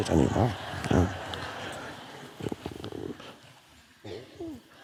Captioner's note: audience laughs